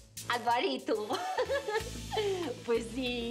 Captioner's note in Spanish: risas